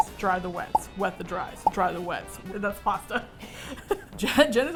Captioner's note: both laugh